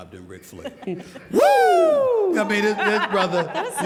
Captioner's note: panelists laughing